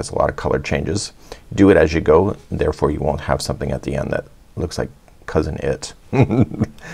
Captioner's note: chuckles